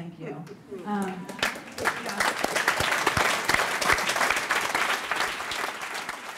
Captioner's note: applause